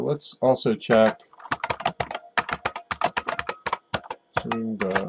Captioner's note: typing